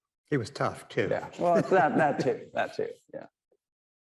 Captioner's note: chuckles